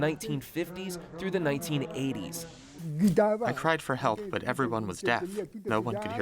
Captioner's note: through translator